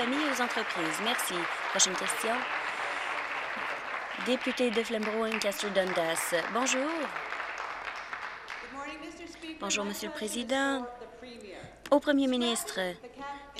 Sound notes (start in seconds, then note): 1.9 applause